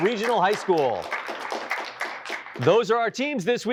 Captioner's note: applause